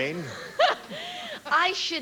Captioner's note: laughs